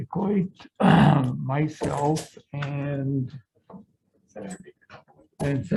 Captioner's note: throat clearing